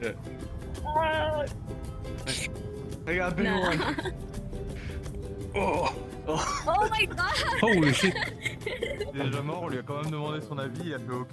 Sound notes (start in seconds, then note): 0.5 yells; 5.5 laughing; 9.2 chatter